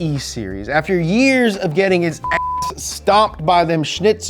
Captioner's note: beep